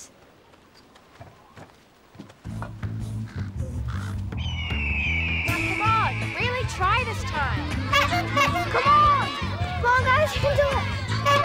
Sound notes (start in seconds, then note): 2.4 tribal drum music; 4.3 bird screeches; 7.6 horn honking